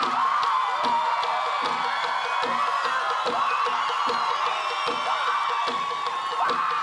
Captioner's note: cheering, applause